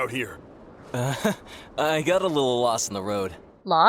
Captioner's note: nervous laugh